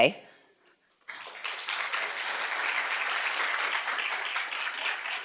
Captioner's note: audience clapping